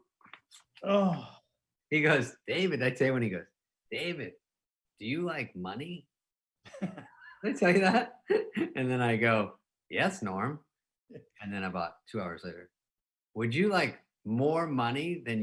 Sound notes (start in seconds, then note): 0.8 groaning; 6.8 laughing